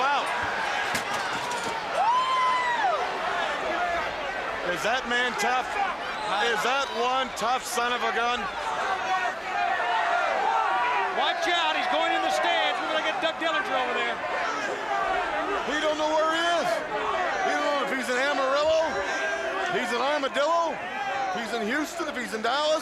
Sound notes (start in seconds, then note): 3.1 crowd chatter; 8.5 crowd chatter; 16.0 crowd chatter